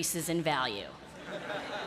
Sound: laughter

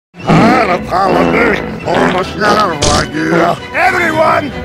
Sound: sings and farts

